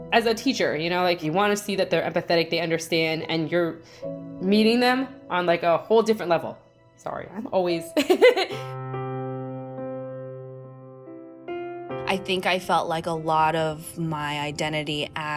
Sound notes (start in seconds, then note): 8.0 laugh; 8.9 hopeful music